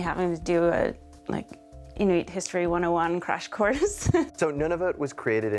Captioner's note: laughs